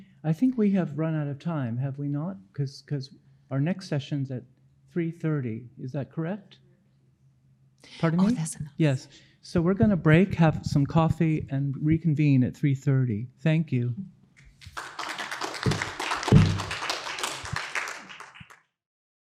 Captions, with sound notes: - I think we have run out of time, have we not? Cuz our next session's at 3:30, is that correct? Pardon me? - Oh, that's enough. - Yes. So we're gonna break, have some coffee, and reconvene at 3:30. Thank you. (audience applauding)